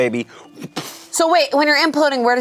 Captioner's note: imitates explosion